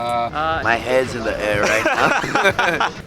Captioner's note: both laugh